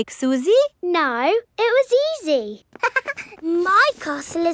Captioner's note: chuckles